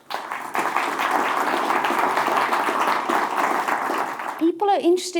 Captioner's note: audience applauds